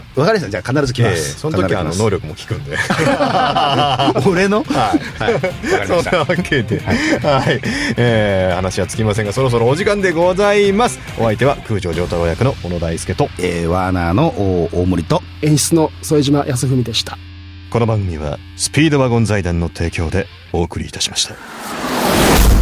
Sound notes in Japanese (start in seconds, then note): 2.6 笑い; 7.6 息をのむ音